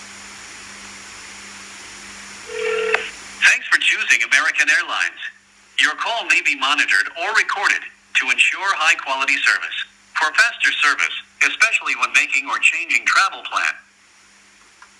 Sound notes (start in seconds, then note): 0.6 phone rings.... call is connected